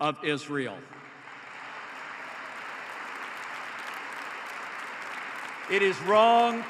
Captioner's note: applause